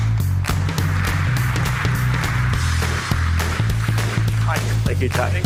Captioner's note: applause